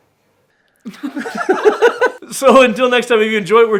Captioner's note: laughing